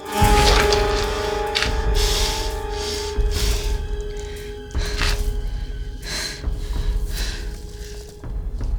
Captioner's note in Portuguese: respiração